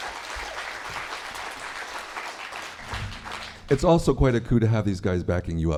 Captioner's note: applause